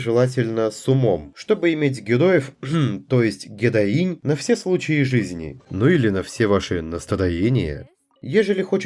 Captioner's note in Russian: кхм